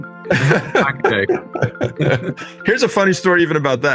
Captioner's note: laugh